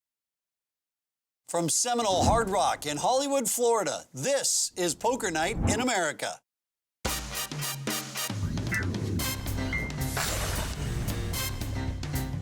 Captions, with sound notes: - [Voiceover] From Seminole Hard Rock in Hollywood, Florida, this is Poker Night in America. (upbeat jazz music)